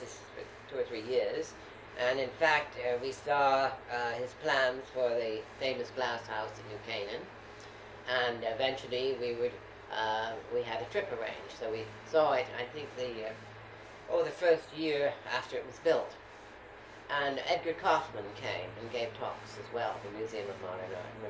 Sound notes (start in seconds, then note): none